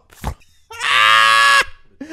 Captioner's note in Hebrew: רעש צחוק